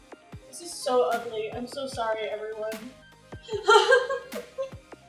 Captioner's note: laughing